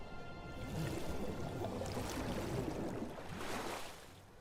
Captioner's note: water splashing